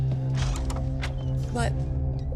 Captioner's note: door creaks